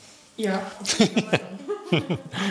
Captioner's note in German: Er lacht